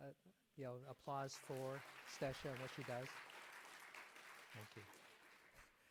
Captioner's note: audience applauds